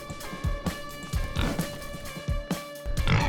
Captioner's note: Baby hoglin snorts